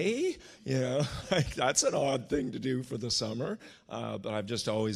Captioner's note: chuckles